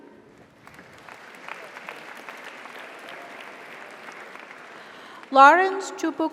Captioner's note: audience applauds; audience cheers